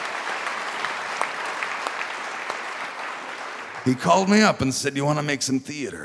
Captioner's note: cheers and applause